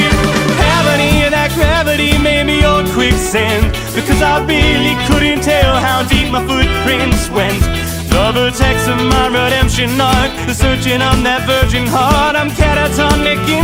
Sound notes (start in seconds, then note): 2.2 horns; 3.7 excited guitar; 10.5 excited guitar